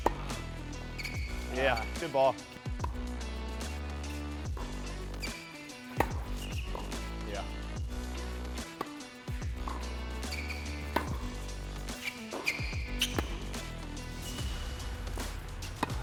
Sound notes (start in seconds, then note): 0.8 shoes squeak; 3.1 upbeat music; 6.2 shoes squeak; 8.5 upbeat music; 10.8 ball thuds; 11.8 shoes squeak